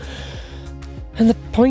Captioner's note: gasps